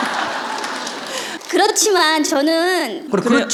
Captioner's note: audience/Questioner Laughter